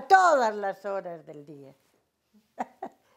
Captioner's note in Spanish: ríe